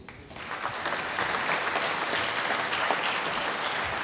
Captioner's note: applause